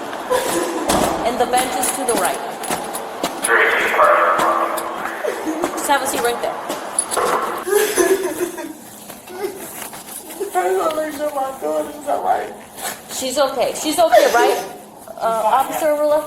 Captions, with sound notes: And the bench is to the right (Radio chatter) Just have a seat right there How do I make sure my daughter is all right? She's okay She's okay, right? Ah Officer Ajrulla